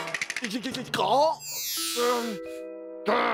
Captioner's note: gasps